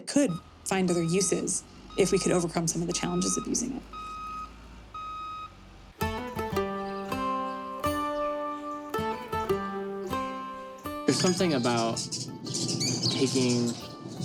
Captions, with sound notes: that could find other uses if we could overcome some of the challenges of using it. (truck beeping) (gentle music) - There's something about taking